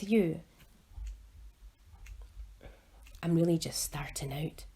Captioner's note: sound of ticking clock throughout